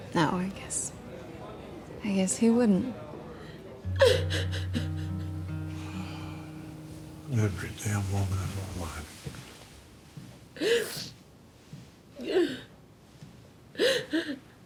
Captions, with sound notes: - No. I guess, I guess he wouldn't. (Angela sobbing) (melancholic music) - (sighs) Every damn woman in my life. (Angela continues sobbing)